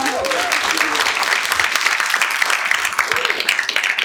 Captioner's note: applause